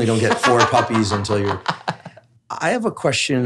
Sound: laughs

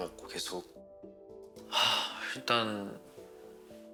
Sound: sigh

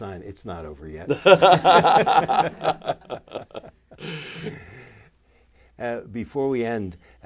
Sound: laughter

